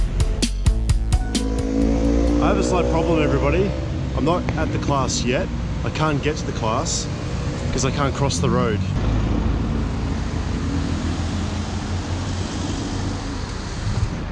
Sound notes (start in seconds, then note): 0.0 upbeat techno music; 9.0 cars driving